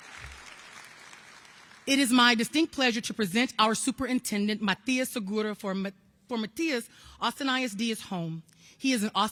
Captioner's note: applause